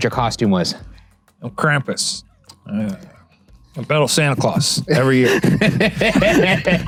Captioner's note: laughs